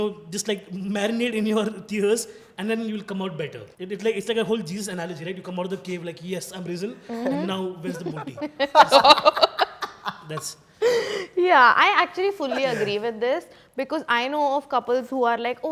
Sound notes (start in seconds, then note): 7.1 laughing